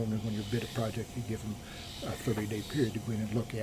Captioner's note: BOTH laugh